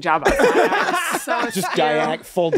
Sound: everyone laughs

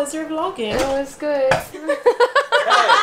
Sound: laughing

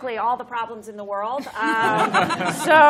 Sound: laughter

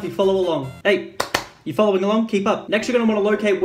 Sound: claps

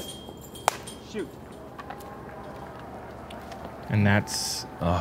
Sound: cheering

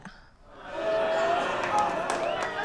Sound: audience ohhs; applause

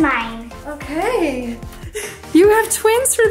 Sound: laughs

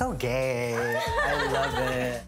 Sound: laughing

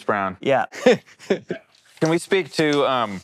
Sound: laughs

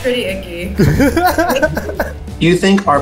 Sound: man laughs

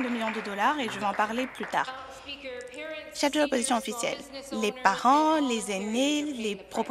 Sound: some Applause

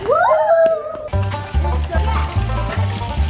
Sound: cheering; banjo music

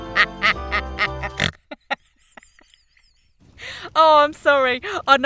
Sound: laughs so hard she literally snorts

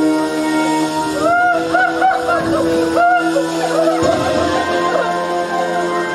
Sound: Queen Player cries; ominous music

